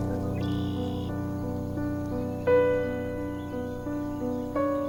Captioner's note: insects chirping